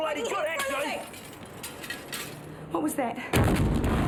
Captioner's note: glass breaks